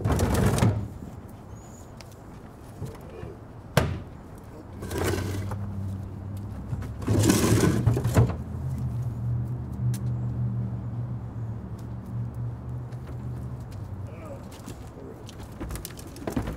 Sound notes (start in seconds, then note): 3.5 garbage bin lid thuds; 4.6 garbage bins scratching; 8.8 vehicle engine revving; 14.1 grunts